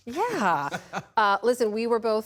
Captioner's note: laughter